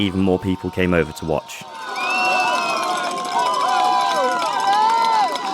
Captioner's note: cheering